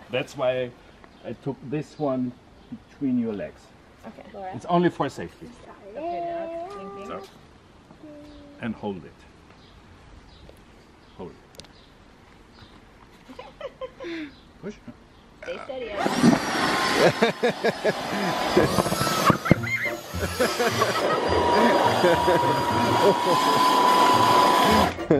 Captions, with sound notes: - That's why I took this one between your legs. - Okay. - It's only for safety. So, and hold it. Pull it. (woman laughs) Push. - Stay steady, Isaac. (air whooshes) (all laughing) (playful music)